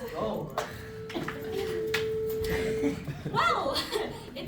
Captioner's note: bell rings